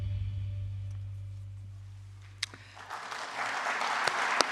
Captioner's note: applause